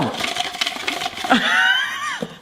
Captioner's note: spiralizer rattling; laughs